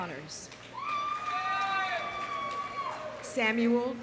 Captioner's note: audience applauding; audience cheering